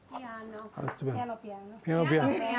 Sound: speaking Italian; all laughing

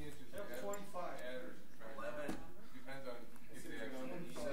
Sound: overlapping chattering

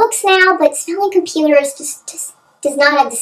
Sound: high-pitched voice

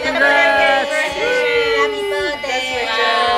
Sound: cheers

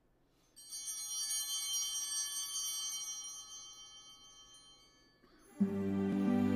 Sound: chimes ringing

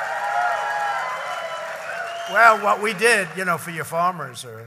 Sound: applause

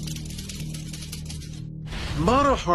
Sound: typewriter sounds

